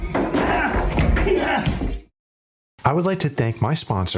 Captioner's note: grunts